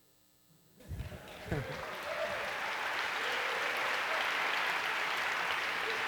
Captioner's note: applause